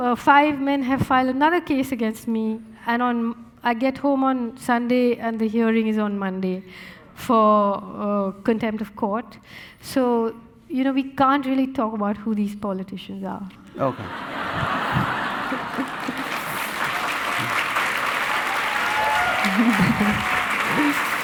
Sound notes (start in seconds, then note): 13.8 audience laughing; 16.7 audience applauding and cheering